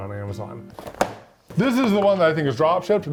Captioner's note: box clinking